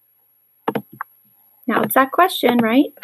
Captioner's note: typing